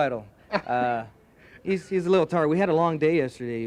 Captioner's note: laughing